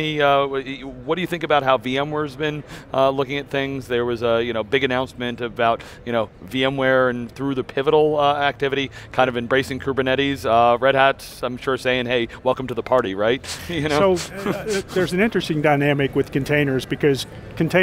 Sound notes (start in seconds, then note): 13.6 laughing